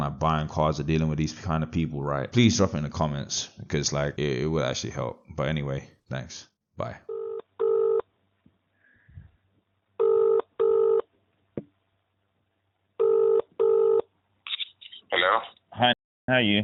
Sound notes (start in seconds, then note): 8.4 line Rings